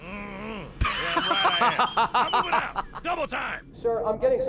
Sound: laughs

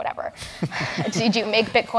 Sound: laugh

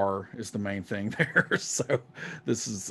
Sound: laughs

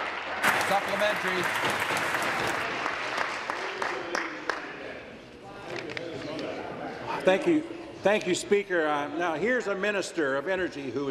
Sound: applause

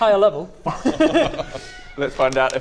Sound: laughs

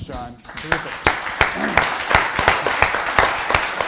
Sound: applause

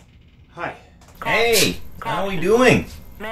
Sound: app Voice

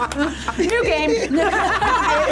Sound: group laughs

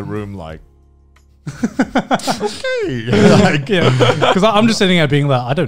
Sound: laughing

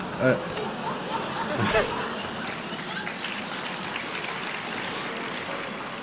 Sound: laughter; applause

